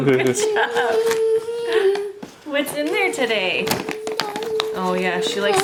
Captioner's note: humming